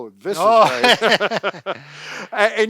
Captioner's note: both laugh